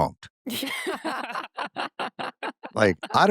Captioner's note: laughter